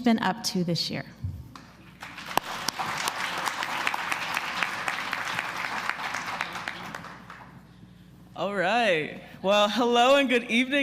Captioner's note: applause